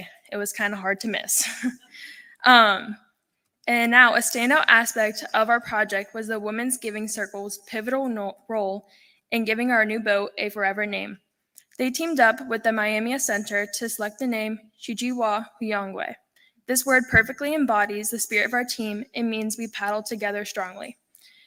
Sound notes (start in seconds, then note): 1.4 laughter